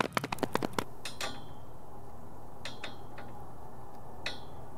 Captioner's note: sign rattling